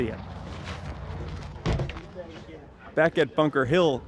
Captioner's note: soft thump